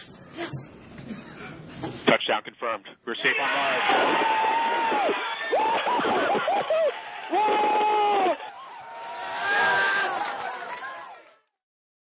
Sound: wild cheers

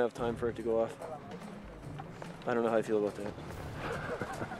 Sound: laughs

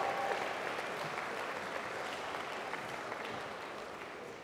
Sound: applause

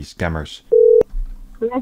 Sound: dialing

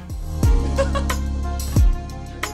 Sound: laughs; upbeat music

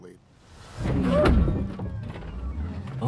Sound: bang

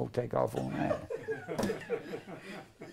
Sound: laughter

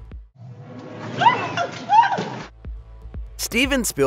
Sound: scream

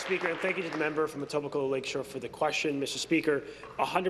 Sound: applause

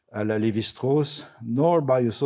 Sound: speaking French

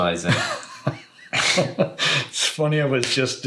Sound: laughs

